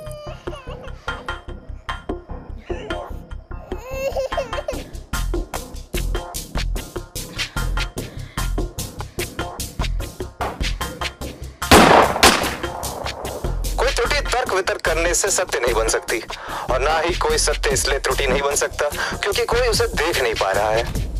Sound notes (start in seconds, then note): 3.5 sobs; 11.7 gun fire